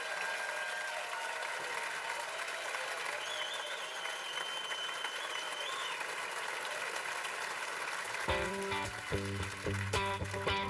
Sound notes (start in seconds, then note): 2.1 cheers and applause